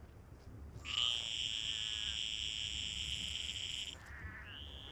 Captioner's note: croaks